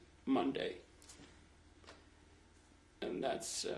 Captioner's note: pauses for 3 seconds